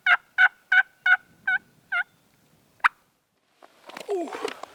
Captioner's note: turkey call